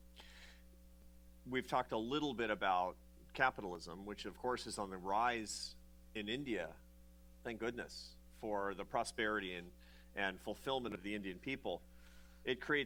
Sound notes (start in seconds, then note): none